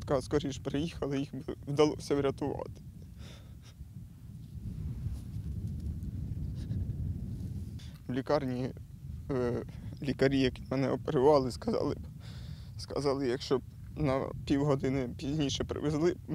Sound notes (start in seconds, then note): 5.3 speaking Ukrainian language